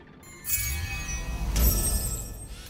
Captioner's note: digital chimes